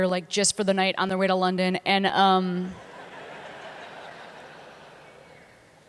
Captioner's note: laughter